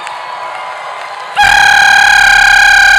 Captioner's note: applause and cheering; air horn blows; applause and cheering